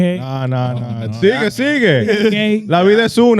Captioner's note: speaking In Foreign Language